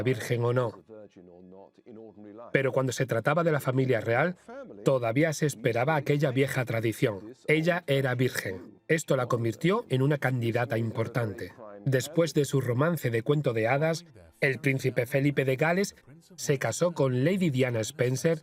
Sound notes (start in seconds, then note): 12.7 voiceover